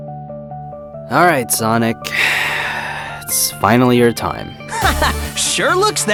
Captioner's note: sigh